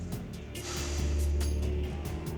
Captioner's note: sighs